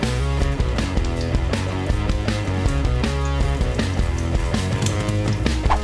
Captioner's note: rock music; sizzling; rock music; sizzling; whip cracking